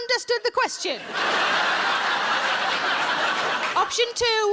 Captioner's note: audience laughing